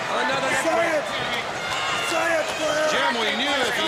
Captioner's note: crowd chatter